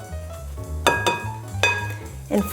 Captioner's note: subtle groovy music; spatula clanging